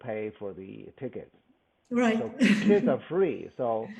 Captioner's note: laughs